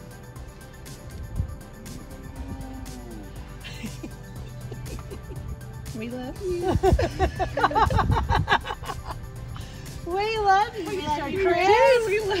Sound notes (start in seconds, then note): 6.6 laughter